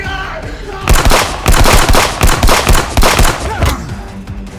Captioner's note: guns firing